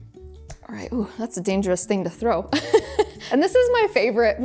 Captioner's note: laughs